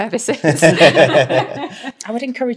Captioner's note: all laughing